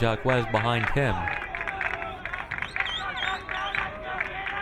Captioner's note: crowd clapping